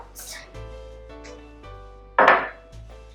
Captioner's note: bowl set down off-camera